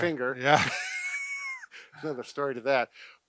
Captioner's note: laughs